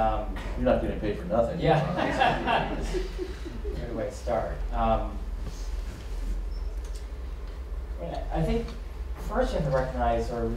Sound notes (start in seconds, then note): 1.8 laughter